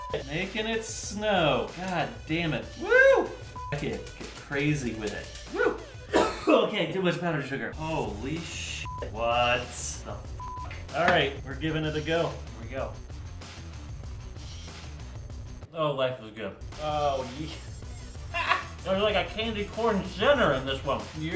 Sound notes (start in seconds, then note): 6.0 cough